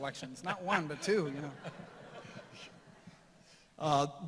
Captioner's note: laughter